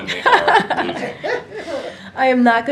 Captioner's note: laughter